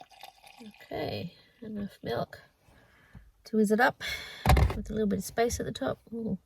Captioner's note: liquid pours and glugs; loud clunk